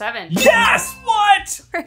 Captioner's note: bell dings